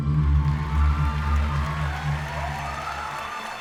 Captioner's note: cheers and applause